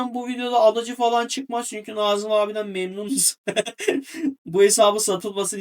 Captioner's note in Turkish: kahkaha